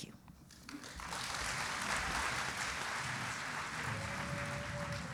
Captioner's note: audience applauding